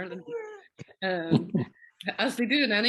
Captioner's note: chuckles